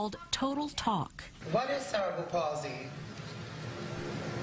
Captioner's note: voiceover